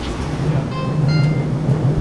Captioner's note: train bell